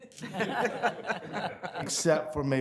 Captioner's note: people laughing